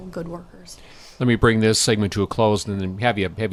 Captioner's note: voiceover